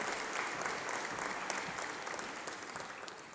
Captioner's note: applause